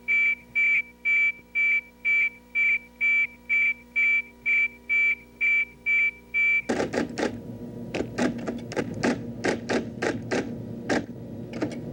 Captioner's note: beeping sound